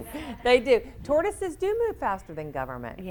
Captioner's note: audience laughs